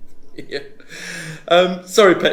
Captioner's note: chuckling